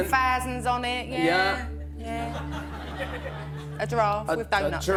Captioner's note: laughter